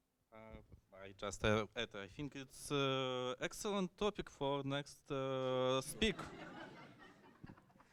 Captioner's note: laughter